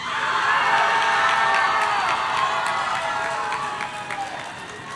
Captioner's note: audience cheering